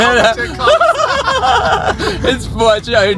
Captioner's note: everyone laughs